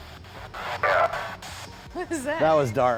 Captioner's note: spirit box voice